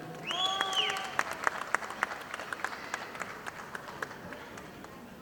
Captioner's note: audience applauding